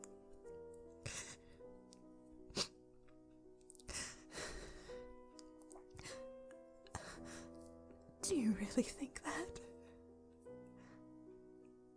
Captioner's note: sniffles